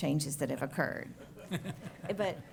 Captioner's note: laughter